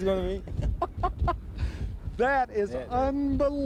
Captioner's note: laughter